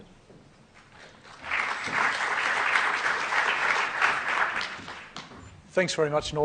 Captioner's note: applause